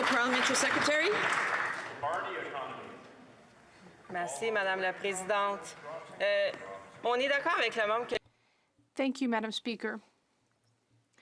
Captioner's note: some Applause